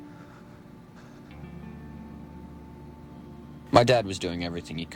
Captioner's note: gentle music; Jason sighs